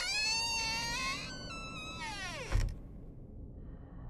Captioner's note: door creaking